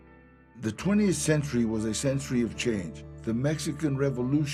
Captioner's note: in English